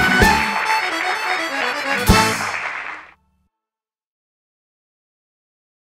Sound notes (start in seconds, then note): 1.6 music concludes, applause continues